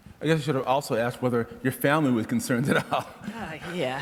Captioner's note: laughs